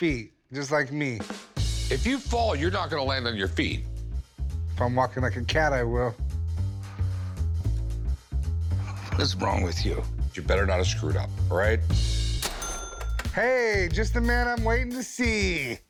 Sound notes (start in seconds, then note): 6.2 jazzy bass music; 7.8 chuckles